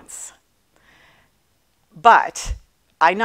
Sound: none

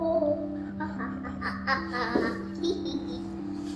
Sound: laughing

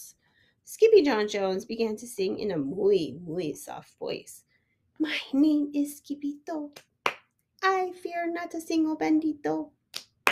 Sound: clap clap

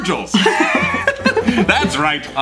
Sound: laughs

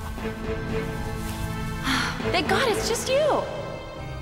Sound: sighs

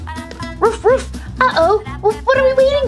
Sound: Skye barking

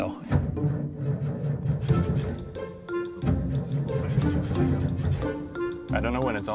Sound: engine struggling to start

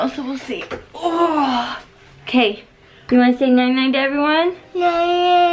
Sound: moan

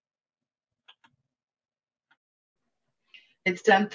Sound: mouse clicking

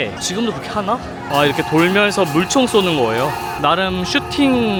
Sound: water shooting

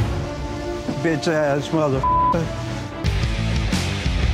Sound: beep; rock music

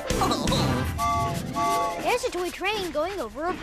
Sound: toot-Toot!

